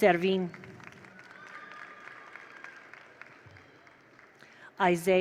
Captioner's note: attendees applaud; attendees cheer